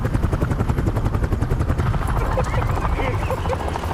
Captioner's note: laughter